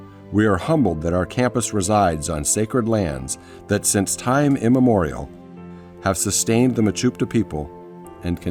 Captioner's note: none